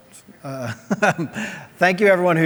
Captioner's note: laughs